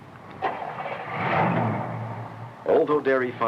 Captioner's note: engine revving